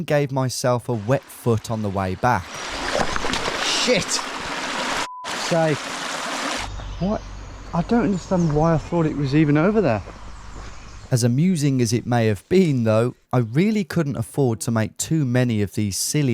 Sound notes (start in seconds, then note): 5.0 beeps